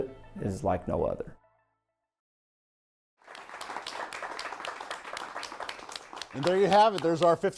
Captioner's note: applause